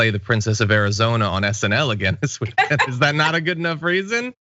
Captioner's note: laugh